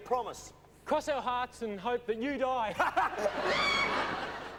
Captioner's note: laughs